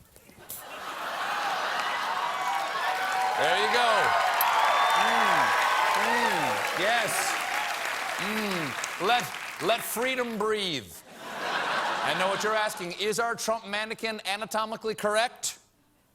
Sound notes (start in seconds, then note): 0.6 cheers; 11.1 laughter